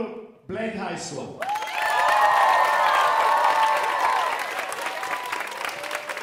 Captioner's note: audience cheering and applauding